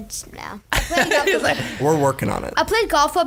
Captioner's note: laughing